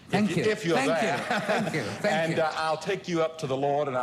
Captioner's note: laughs